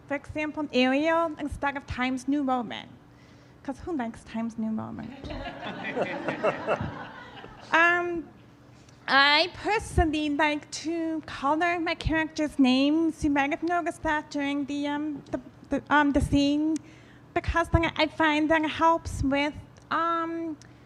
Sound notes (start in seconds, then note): 5.1 audience laughing